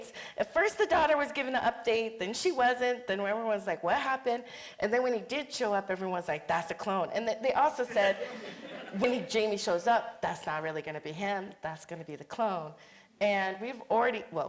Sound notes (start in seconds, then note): 8.0 audience chuckling